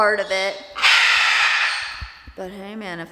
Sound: Rocky screams loudly

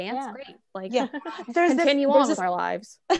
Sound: laugh

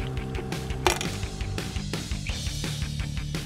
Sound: clank

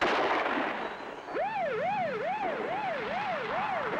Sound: siren wailing

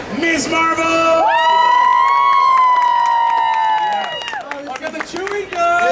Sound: audience cheering

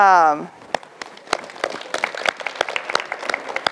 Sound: applause

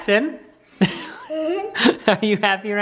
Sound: laughs

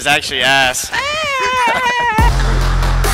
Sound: squealing; upbeat music

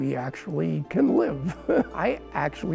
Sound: laughing

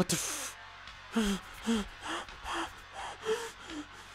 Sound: scratching

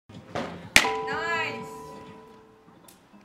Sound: softball hits mit

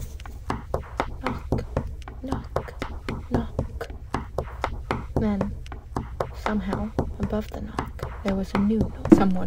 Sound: almost a whisper; creak of someone stepping onto stairs, then ascending

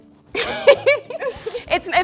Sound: laughing

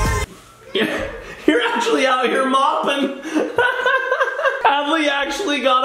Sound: laughs

